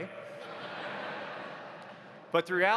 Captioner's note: audience laughs